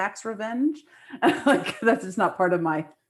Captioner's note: laughs